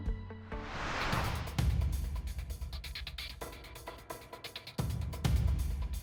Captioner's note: dramatic music; screen whooshing